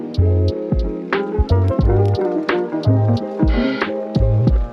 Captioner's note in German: atmet tief aus